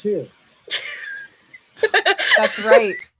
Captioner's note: laughing